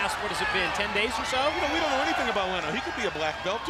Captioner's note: crowd cheering